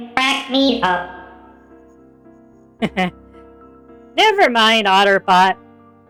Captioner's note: chuckles